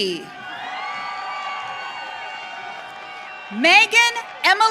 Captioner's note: audience cheering